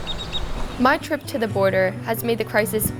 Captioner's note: birds chirping